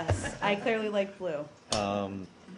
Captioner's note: laughter